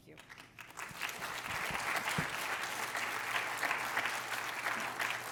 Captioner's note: applause